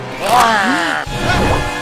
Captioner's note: alien growling; dire orchestral music